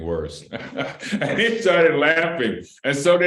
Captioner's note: laughter